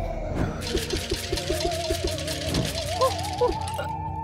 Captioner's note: can rattling